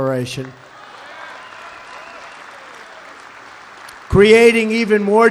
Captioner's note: applause